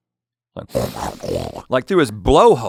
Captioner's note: snorting